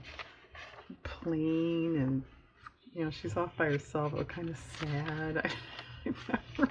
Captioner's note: laughs